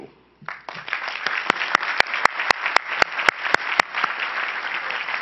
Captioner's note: crowd applauding